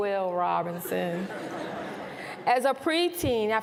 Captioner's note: laughter